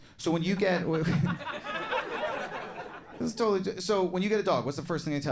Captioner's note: audience laughing